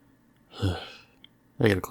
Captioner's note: sigh